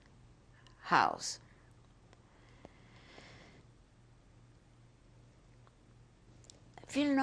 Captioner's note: pauses for 6 seconds